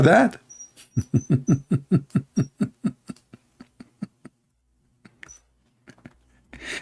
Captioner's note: Ketawa